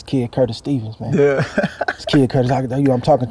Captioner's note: Edgar laughing